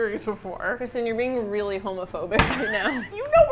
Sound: laughing

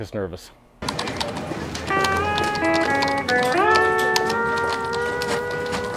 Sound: phone ringing; printer buzzing

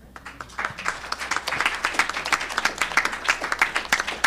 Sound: audience clapping

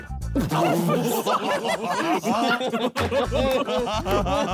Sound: men laughing

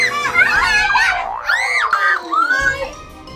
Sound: scream

